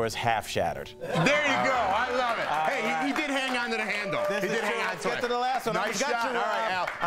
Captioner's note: laughter